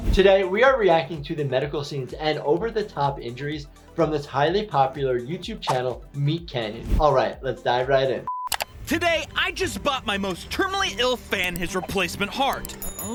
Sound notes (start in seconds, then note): 8.5 mouse clicks